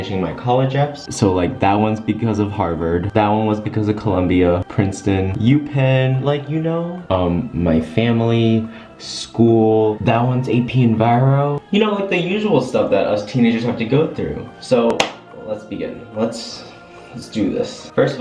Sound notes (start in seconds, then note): 14.9 clap